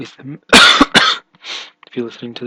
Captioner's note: coughing